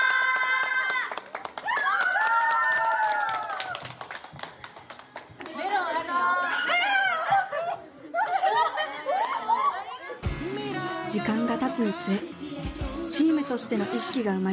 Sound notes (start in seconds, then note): 0.0 applause